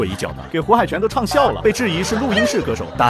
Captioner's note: laughs